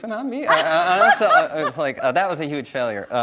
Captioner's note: laughs